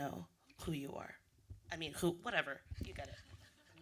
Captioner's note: laughter